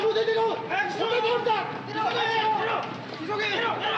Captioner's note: shouting in Japanese